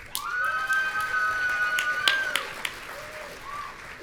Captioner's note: audience cheering